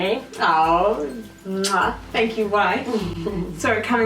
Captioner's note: kissing noise